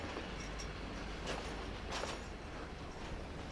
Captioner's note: train passing